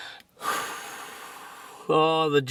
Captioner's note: exhales